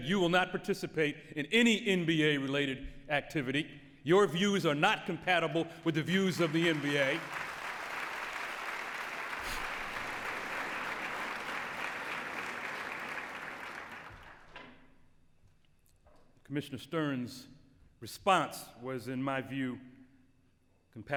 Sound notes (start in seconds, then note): 7.7 applause